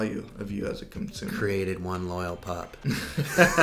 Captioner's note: laughs